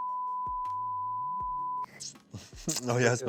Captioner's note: beep